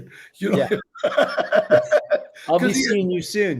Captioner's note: Danny laughing